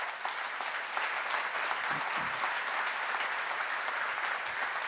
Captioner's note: applause